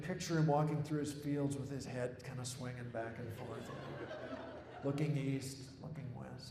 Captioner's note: laughter